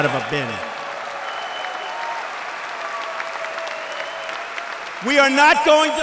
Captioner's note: applause